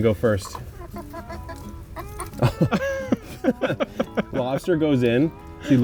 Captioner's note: guys chuckling